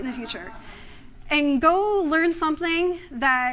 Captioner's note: laughter